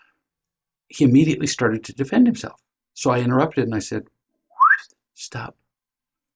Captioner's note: whistles